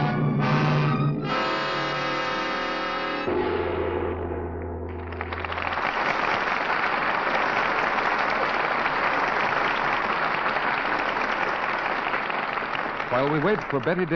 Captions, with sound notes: (dramatic music) (audience applauding) While we wait for Betty